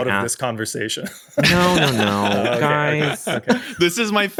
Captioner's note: taran laughs